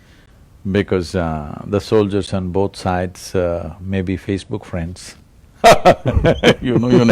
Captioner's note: laughter